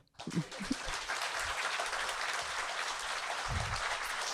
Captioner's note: audience clapping